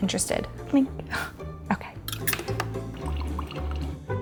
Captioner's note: egg sizzling